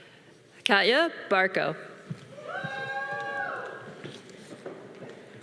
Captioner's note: audience cheering